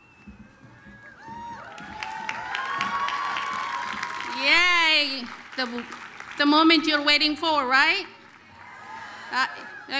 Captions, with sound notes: [APPLAUSE, CHEERING] Yay! The moment you're waiting for, right?